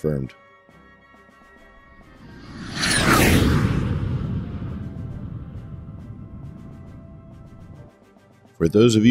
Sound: jet Whoosh Sounds

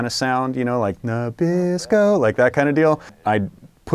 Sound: singing; speaking normally

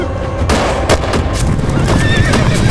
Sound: gunshot

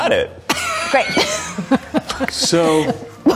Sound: laughing

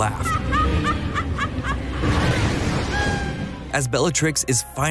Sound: maniacal laugh

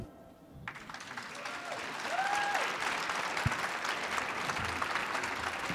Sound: audience claps and cheers

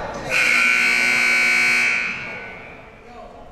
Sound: siren buzzing

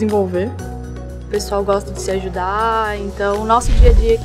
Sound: speaking portuguese

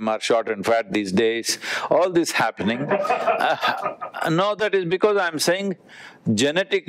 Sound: Vusi laughs

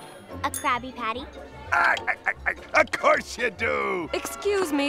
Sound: chuckling

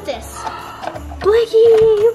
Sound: gasping

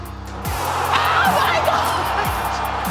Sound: crowd cheers

